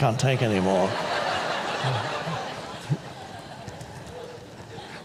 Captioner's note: audience laughs